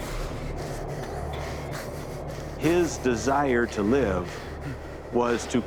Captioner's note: panting